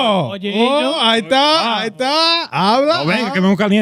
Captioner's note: speaking In Foreign Language